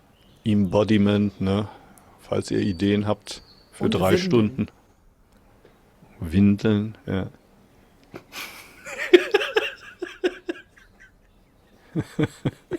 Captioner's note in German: gelächter